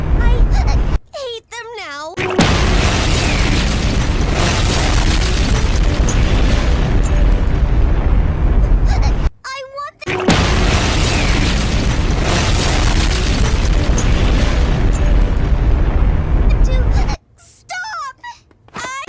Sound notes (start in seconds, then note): 2.2 boom!; 10.6 boom